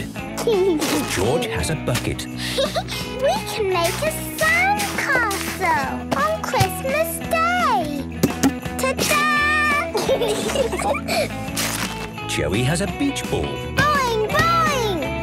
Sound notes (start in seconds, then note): 0.4 giggling; 2.4 giggling; 2.4 Peppa laughing; 9.9 laughter